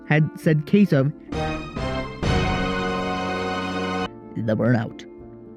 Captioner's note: dramatic noise